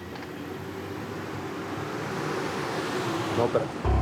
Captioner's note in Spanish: ruido del motor